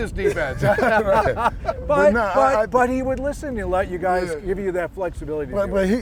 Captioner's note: laughter